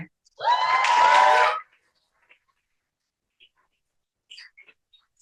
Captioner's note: cheering